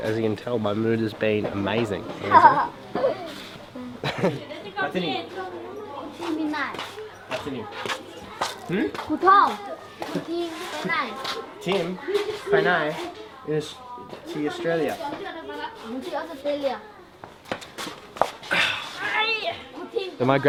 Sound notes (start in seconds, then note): 2.2 kid giggles; 4.0 giggles; 5.5 foreign language; 17.0 foreign language